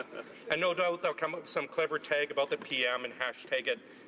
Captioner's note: laughter